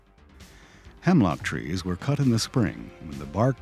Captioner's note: voiceover